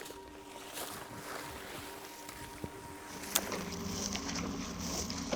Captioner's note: footsteps squishing